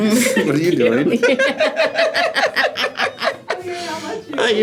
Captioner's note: both laugh